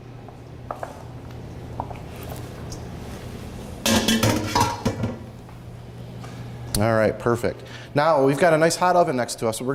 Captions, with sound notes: (metal bowl clanking) All right, perfect. Now we've got a nice hot oven next to us.